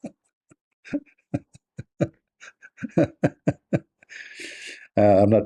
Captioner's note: Ketawa